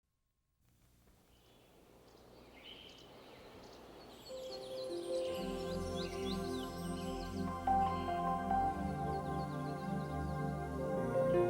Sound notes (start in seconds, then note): 2.4 birds chirping; 5.2 gentle music